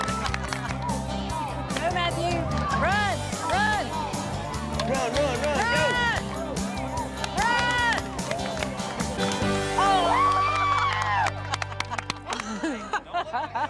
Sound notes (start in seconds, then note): 5.7 cheering, clapping; 9.6 laughter